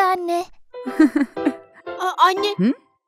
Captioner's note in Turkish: gülüyor